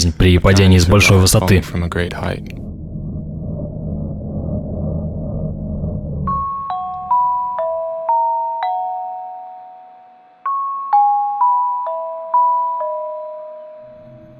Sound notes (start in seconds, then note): 2.9 foreboding sound effect; 6.3 soft slow music